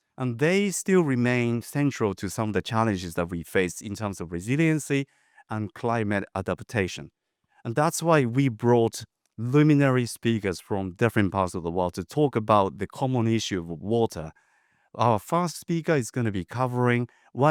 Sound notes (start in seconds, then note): none